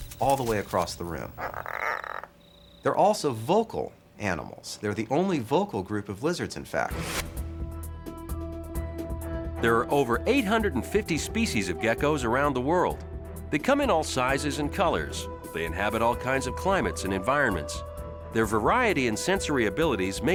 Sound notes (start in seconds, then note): 1.1 gecko croaking; 7.6 pensive music